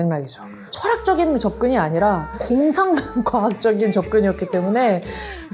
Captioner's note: laugh